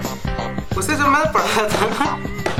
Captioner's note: laughs in intelligence